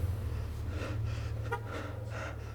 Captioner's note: car honk